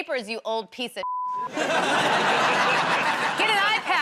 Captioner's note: laughter